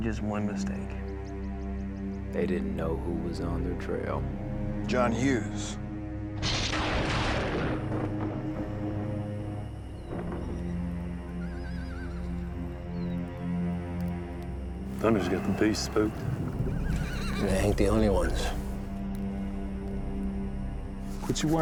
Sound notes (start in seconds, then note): 6.4 lightning, thunder claps; 12.5 horses neighing in distance